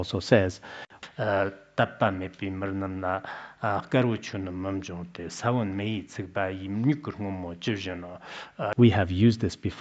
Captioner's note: citing scripture in Tibetan